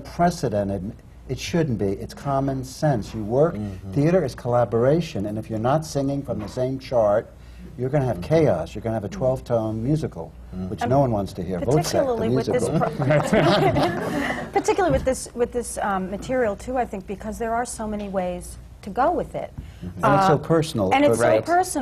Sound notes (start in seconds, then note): 8.9 laughter